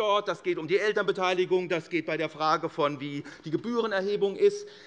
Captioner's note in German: none